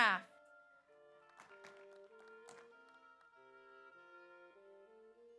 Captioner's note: audience applauds